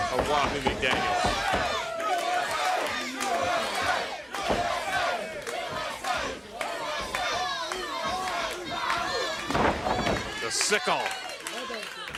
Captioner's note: crowd cheering